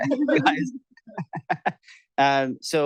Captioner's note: chuckling